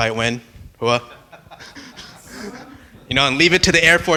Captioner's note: laughing